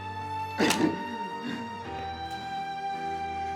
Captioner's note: cocks gun